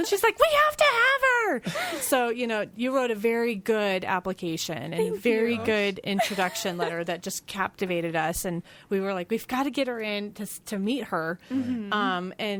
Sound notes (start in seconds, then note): 6.1 laughs